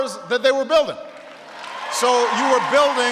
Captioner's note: applause